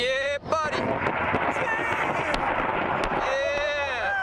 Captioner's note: helicopter firing rounds